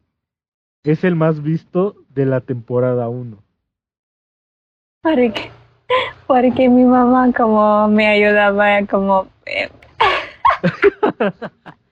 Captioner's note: laughs